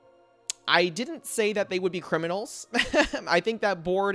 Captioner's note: laughs